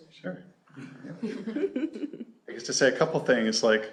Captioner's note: laughter